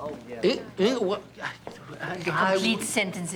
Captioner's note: stammering